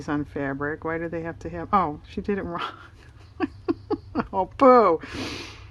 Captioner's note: laughs